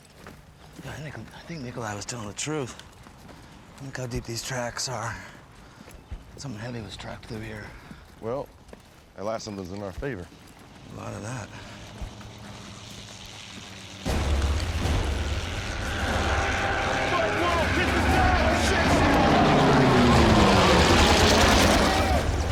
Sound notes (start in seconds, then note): 11.6 plane engine